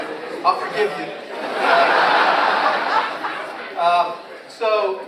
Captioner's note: audience laughs